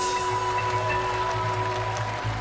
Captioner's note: audience applauding